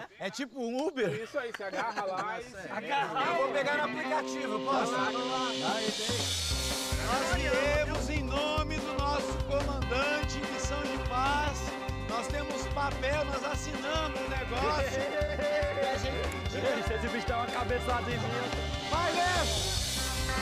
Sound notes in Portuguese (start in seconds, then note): 14.9 Whindersson rindo